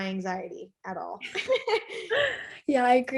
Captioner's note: laughing